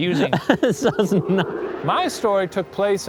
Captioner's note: laughing and stammering